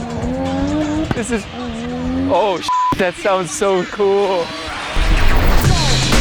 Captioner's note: beep; exciting music